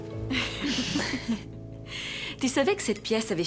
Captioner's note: laughter